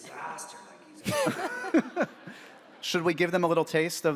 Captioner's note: audience laughs